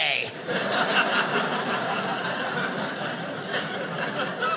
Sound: audience laughing

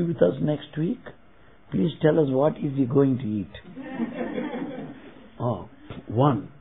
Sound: laughter

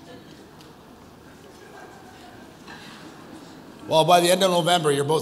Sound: audience chuckles

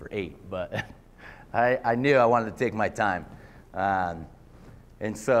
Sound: laughter

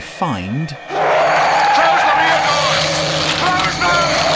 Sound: creature roaring

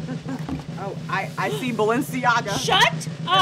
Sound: suspenseful drum rolling; gasps

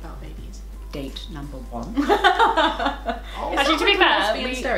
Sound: laughter

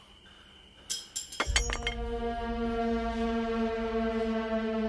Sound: ax rattles

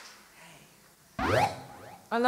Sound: synth noise

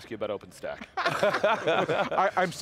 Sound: giggles

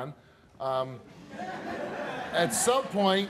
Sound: audience laughing

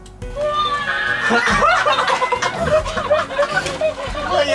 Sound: begins to cry

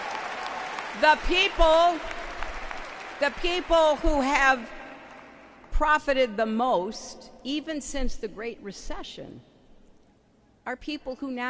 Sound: applause

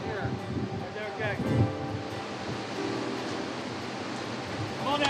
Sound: boat hands talking

